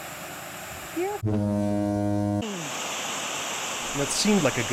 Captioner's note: water gushing; foghorn blaring